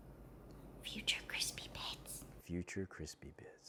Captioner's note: whispers: Future crispy bits